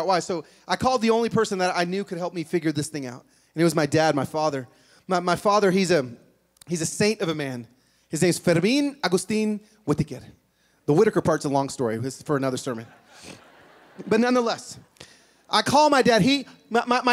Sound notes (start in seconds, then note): 12.7 laughter